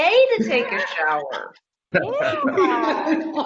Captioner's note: laughing